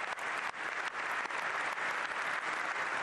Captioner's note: applause